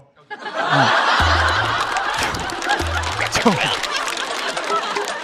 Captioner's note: laughing out of frustration